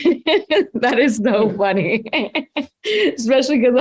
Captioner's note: laughs